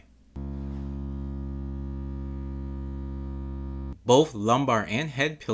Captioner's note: vibrating sound